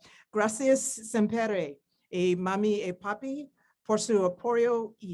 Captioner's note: speaks in foreign language